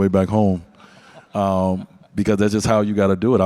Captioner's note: audience laugh